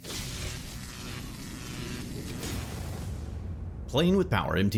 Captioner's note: electricity crackles